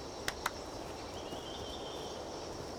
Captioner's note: clapping